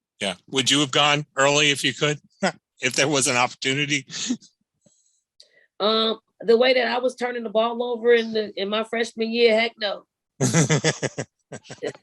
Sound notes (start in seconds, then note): 4.1 chuckles; 10.4 laughs